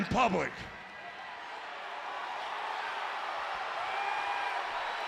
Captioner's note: audience cheering